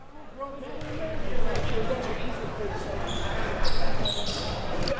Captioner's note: audience chattering